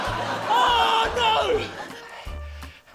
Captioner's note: laughter; yells